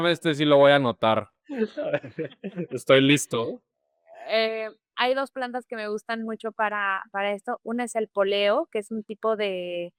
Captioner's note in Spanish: risas